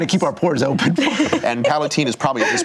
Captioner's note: laughing